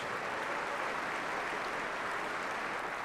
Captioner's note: applause